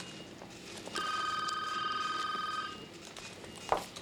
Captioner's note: phone rings